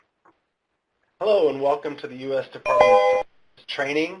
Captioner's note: ding